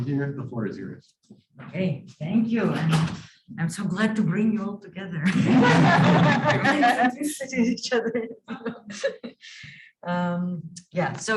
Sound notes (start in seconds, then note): 5.2 laughing and crosstalk